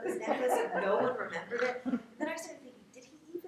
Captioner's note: laughing